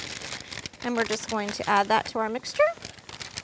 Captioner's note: crinkling